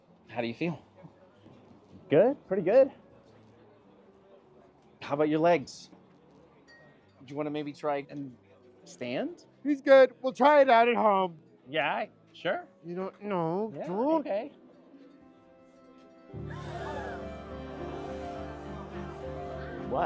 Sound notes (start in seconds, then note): 16.4 gasps; 17.4 inspirational music playing